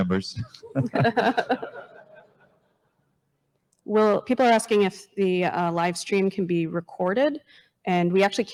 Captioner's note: chuckles